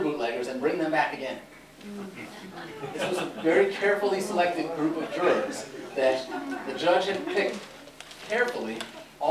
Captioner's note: laughter